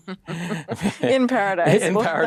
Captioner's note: laughs